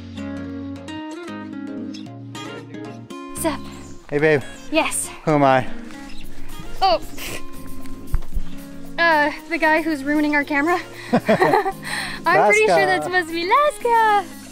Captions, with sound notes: Hey babe. Yes! Who am I? Oh.... Uh the guy who's ruining our camera. [Laughs] I'm pretty sure that's supposed to be Laska!